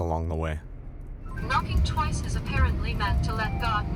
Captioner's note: phone generated voice